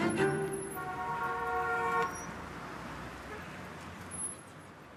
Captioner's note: horns honking